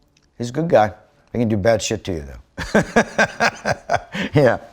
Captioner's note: laughs